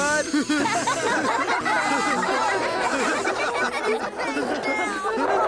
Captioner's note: laughter